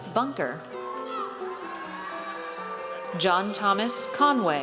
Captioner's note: audience cheers